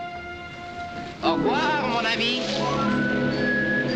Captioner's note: speaking french